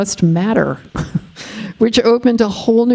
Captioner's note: chuckling